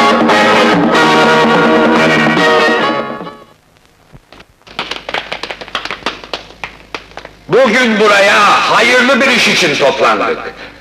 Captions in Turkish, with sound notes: [Alkışlar] Bugün buraya hayırlı bir iş için toplandık.